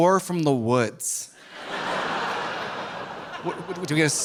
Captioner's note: audience laughing